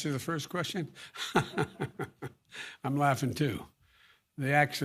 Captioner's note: laughs